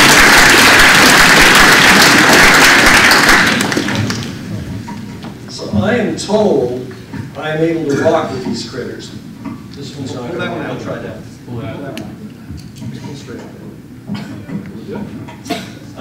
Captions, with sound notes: [APPLAUSE] >>SO I AM TOLD I AM ABLE TO TALK WITH THESE CRITTERS. >>MOVE BACK A LITTLE BIT